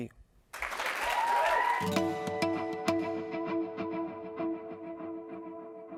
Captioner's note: applause